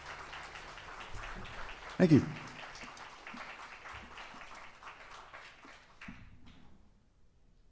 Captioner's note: applause